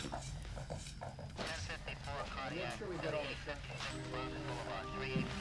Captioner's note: radio chattering; dramatic orchestral music